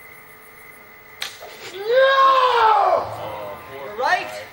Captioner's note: arrow whooshes, Guy howls